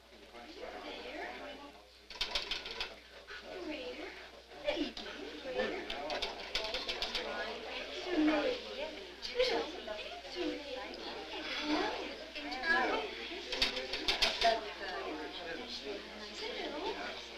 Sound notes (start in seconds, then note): 1.2 people chattering